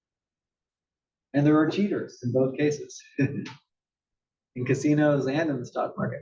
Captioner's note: laugh